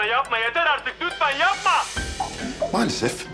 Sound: Coskun voice; Enthusiastic voice

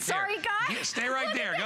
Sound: laughter

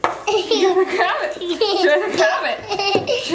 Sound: giggling

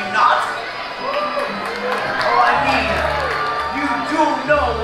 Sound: crowd cheers

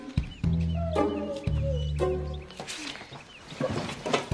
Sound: dog whimpering

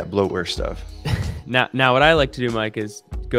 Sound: laughs

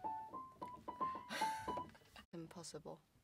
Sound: sighs and laughs

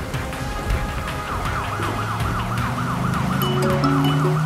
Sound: sirens; phone ringing

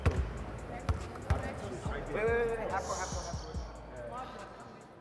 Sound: overlapping chattering

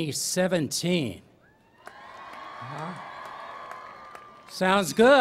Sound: cheering

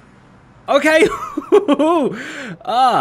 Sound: laughs

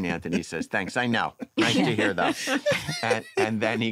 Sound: laughter

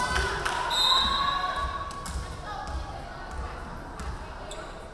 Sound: referee whistling

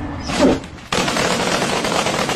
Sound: gunfire

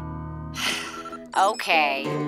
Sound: sighs

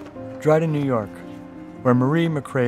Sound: voiceover

